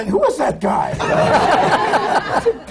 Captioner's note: laughter